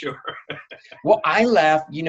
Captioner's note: laughs